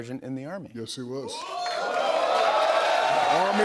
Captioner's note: cheers and applause